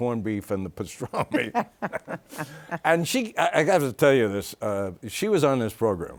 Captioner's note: both laughing